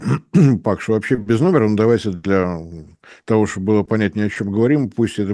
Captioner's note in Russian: откашливается